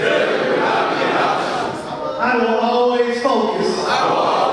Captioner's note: audience speaking